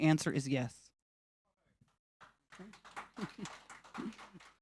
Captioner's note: audience clapping